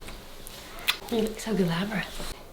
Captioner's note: smooches